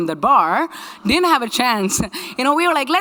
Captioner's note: laughs